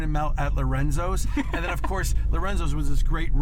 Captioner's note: laughs